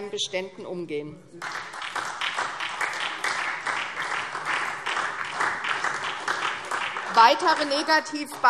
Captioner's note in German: Beifall SDP und vereinzelt DIE LINKE